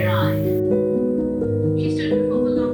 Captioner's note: piano music; book narration fades